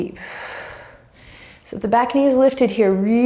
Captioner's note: deep breaths